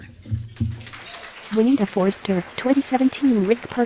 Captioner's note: applause